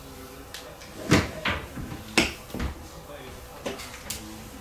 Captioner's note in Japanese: ゴトゴト物音